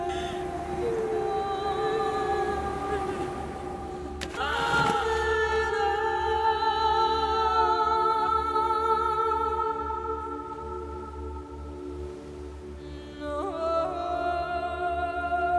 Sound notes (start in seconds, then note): 2.1 mother weeping; 4.6 ethereal vocalizing; 4.6 water splashing